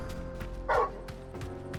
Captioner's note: bark